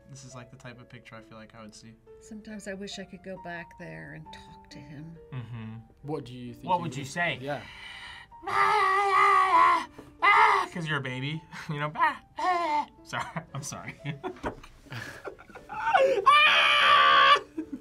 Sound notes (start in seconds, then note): 8.4 screams; 12.4 babbles; 14.9 laughs; 15.8 screams